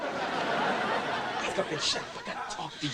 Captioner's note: audience laughing